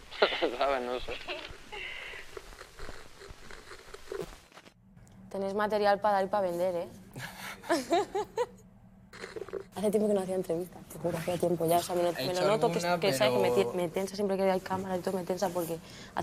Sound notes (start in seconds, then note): 1.0 both laugh; 7.2 laughs